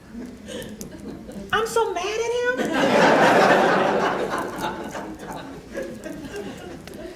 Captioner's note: laughter